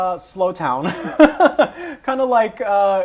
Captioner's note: laughs